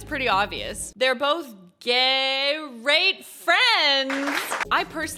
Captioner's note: audience clapping